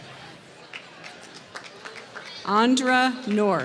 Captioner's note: applause